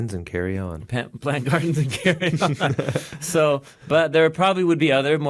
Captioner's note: laughs